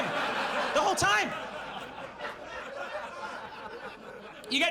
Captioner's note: audience laughs